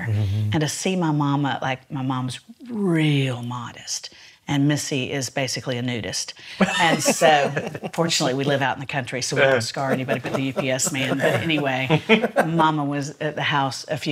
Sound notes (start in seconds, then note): 6.6 laughs